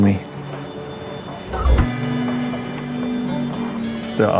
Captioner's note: water flows